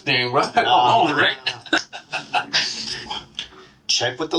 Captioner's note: chuckles